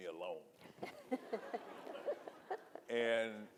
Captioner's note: audience laughing